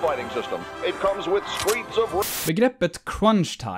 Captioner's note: white noise